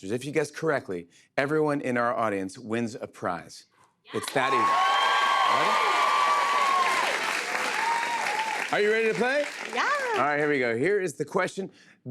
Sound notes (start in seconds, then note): 4.1 cheers and applause